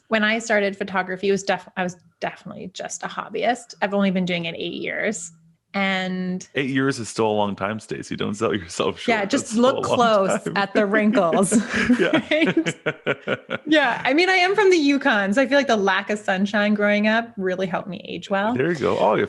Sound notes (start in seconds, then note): 10.7 laughing; 10.8 both laughing